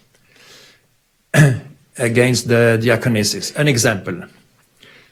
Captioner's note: clears throat